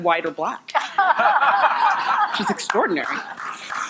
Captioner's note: audience laughing